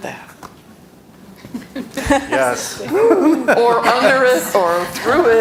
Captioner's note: laughter